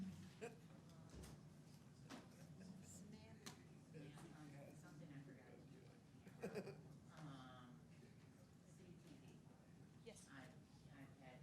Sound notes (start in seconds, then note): 2.6 people chatting amongst themselves